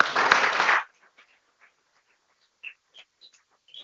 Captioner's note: people clapping